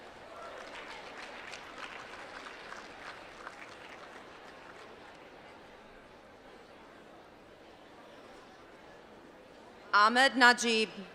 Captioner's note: applause